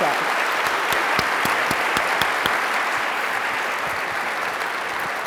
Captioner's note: applause